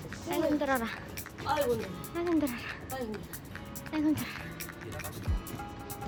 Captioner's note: groans and gasps for air